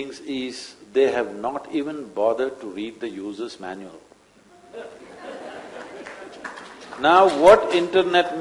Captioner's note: laughter